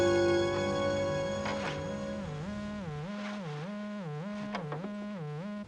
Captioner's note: line buzzing